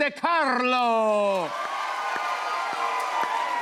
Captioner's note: cheers and applause